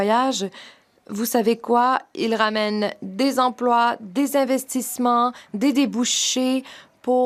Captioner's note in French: voix de l'interprète